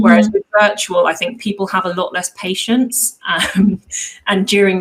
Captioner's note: chuckles